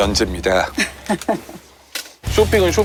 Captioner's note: the most awkward laugh ever